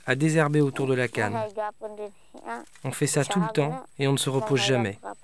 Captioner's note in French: Audio parlé philippin